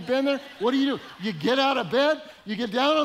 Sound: audience laughing

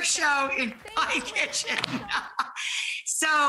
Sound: laughter

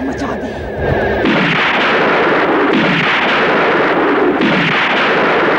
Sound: explosion

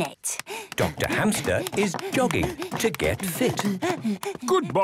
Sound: panting

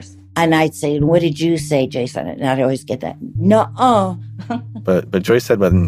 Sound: laughs

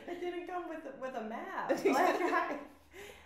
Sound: laughs

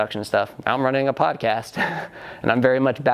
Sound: chuckles

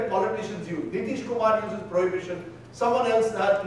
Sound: speaking in foreign language

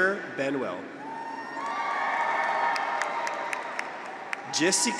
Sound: graduates cheer; audience applauds

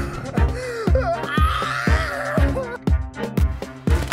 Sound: girly scream

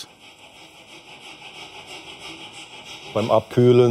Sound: rhythmic rubbing noise in the background

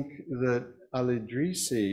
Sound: none

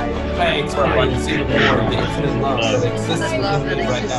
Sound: audience responding; uplifting music

